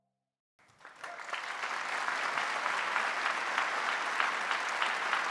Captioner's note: audience applauding